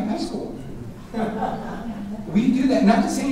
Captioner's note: audience chuckling